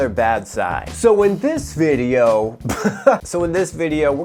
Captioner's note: chuckles